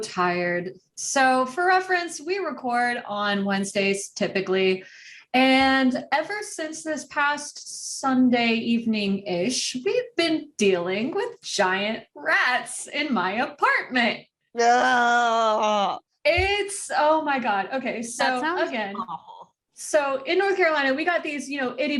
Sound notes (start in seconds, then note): 14.5 groans in sympathy